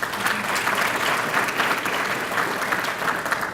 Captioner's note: applause